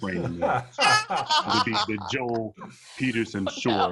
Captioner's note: laugh